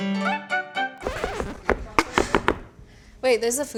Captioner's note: record skipping